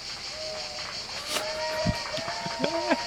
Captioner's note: people start clapping and shouting in the distance